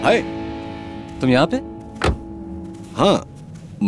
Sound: car door closes

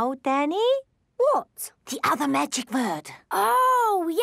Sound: whispering

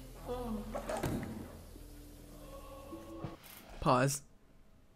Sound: guy thuds

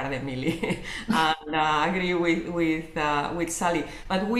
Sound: laughs

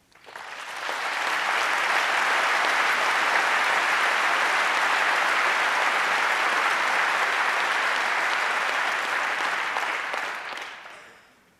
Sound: applause

